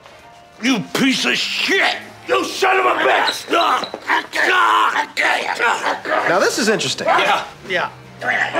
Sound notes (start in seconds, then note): 4.0 grunting, groaning